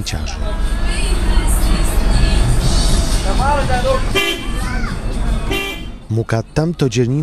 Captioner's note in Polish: Ulica i trąbiące samochody